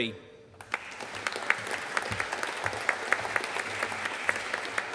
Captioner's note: audience applauding